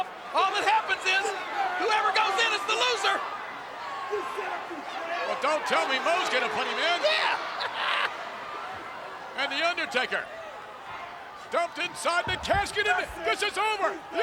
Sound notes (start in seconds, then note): 7.1 laughs